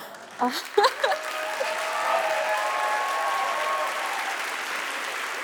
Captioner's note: audience applauding; laughing